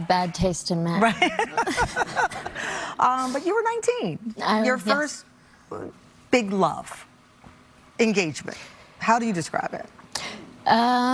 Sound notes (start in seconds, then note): 1.0 both laugh